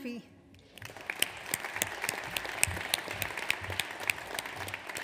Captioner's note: audience applauds